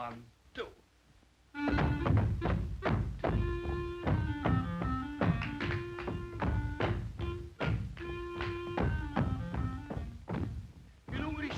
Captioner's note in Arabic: عزف الكلارينيت; ضربات الأقدام